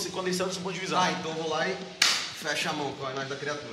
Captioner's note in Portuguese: batida de mão